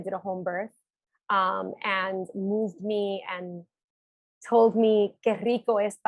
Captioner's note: speaking Spanish